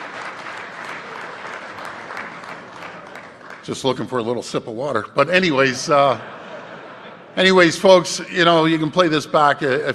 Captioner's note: applause